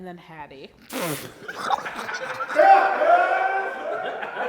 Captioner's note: laffs